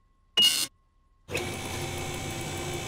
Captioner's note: beeping